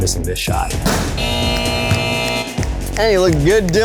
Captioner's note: buzzer buzzes